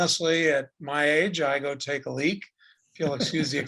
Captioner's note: laughing